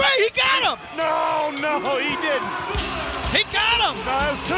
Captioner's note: bell rings